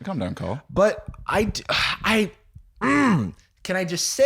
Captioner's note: groans